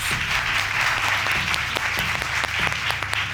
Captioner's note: audience applauding